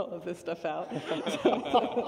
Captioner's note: laughter